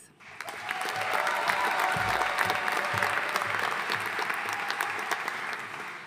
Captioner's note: audience cheering and applauding